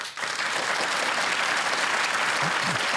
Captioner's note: applause